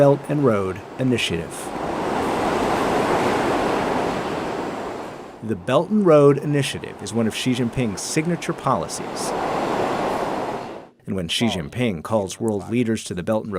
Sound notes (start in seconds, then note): 2.4 train whirring